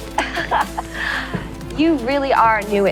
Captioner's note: laughter